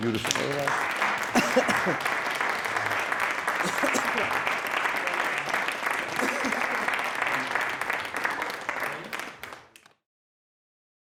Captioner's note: audience clapping